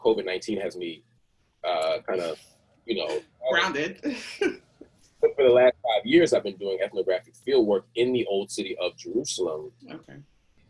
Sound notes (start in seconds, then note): 5.2 chuckles